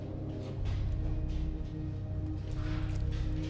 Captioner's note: none